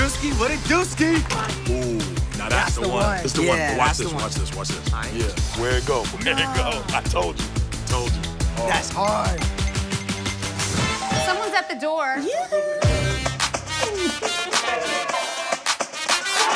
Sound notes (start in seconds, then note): 10.9 doorbell rings; 13.1 upbeat music